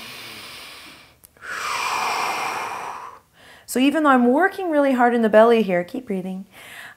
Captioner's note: breath